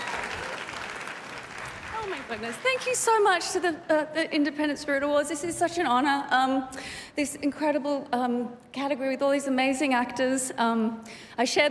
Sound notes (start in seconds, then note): 2.4 cheers and applause